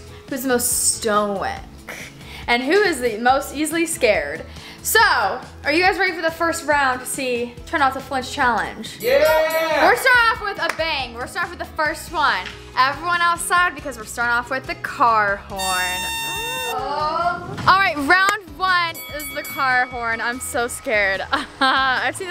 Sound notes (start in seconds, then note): 9.0 cheering; 9.0 bell rings; 15.5 air horn; 21.3 nervous laughter